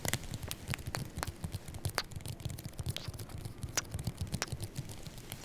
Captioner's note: kisses